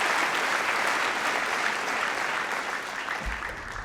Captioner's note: cheering & Applause